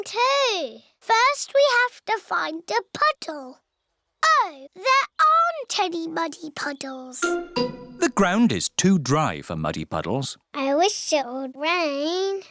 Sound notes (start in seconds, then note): none